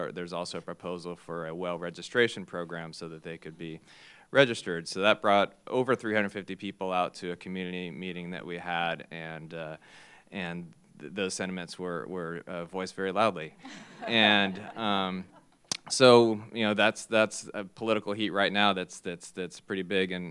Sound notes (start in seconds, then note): 13.6 laughter